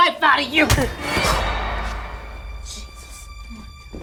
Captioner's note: loud thud